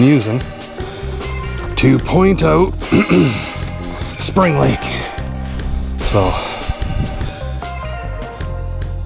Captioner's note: ahem